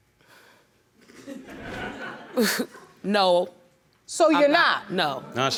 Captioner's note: chuckles; audience laughing